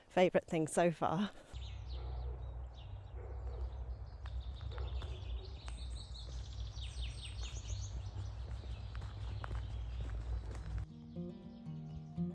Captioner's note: birdsong, dog barking